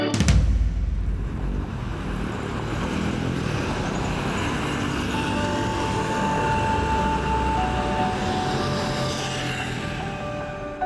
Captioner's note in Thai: เสียงรถยนต์